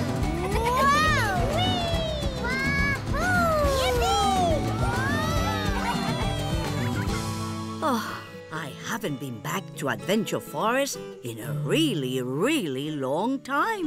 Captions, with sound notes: -Wow! -Whee! -Wahoo! -Yippee! [cheering] Oh, I haven't been back to Adventure Forest in a really, really long time,